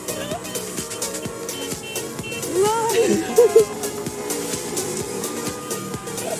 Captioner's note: shouting and car horns